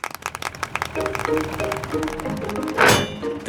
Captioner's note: clapping